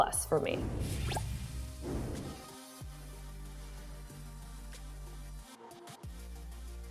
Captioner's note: upbeat music; air whooshes